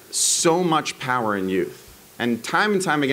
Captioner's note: none